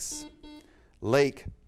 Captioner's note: buzzer beep